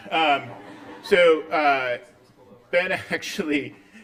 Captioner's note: laughter